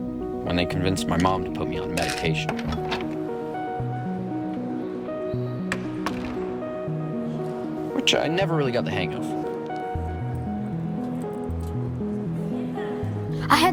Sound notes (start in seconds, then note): 2.8 door clicks; 5.6 door thuds; 9.5 gentle music continues